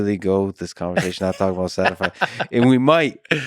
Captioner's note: Tim laughs